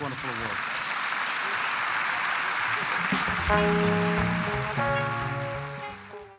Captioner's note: applause